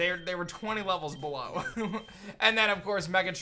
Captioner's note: chuckles